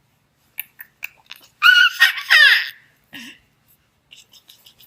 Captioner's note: baby shrieking and giggling